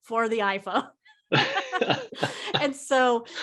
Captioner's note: laughing